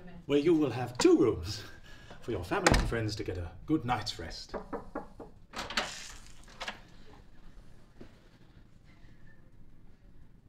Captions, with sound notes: Where you will have two rooms for your family and friends to get a good night’s rest. [Knocks on other door]